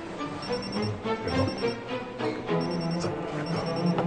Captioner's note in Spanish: Suena celular